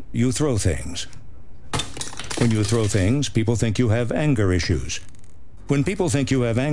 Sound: remote breaks

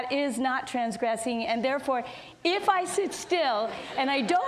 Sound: audience laughs

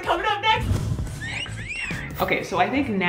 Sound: whispers

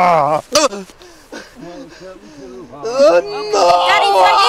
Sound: groaning; laughing; chanting

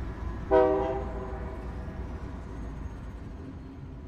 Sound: train honking

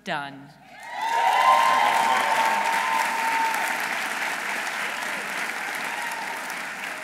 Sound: audience cheering; audience applauding

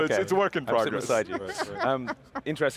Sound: giggles

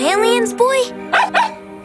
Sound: barking

